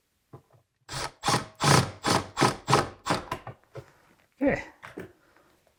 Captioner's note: tool whirring